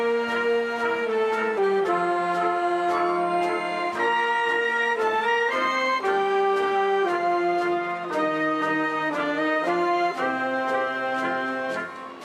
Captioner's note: applause